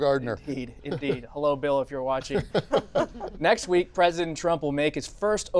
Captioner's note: laughter